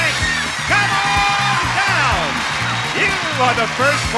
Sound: audience cheers

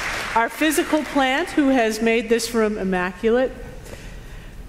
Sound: applause

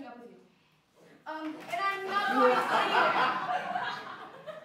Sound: laughter

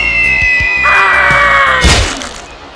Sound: The Sound of GRY Spy Screaming

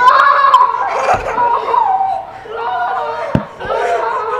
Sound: children laugh

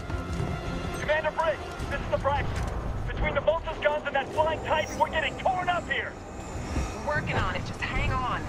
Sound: radio

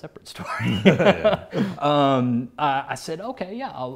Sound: laughs

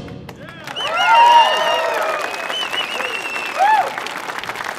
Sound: audience cheering

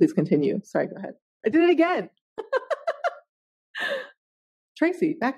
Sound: laughing

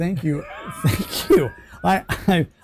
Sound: laughing

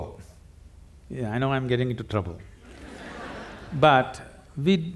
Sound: laughter

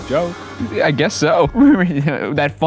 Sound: laughs

